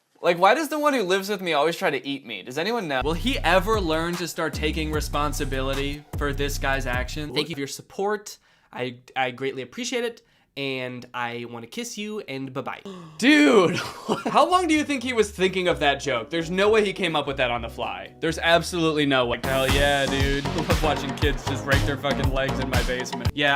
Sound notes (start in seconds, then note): 12.8 incredulous gasp; 13.7 laughter